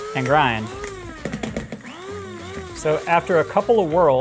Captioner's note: grinder whirring